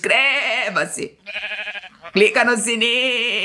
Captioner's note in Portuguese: som de ovelha